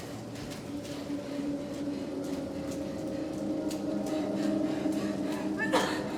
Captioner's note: ominous music; Abby pants; Abby coughs